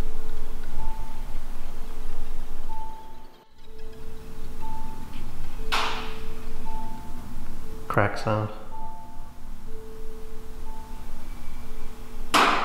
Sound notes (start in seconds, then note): 0.3 eerie music; 6.1 metal clanking; 9.7 eerie music